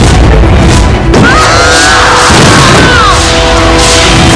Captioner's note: Thud on the floor